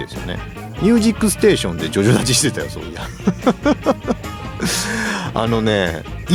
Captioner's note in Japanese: 笑い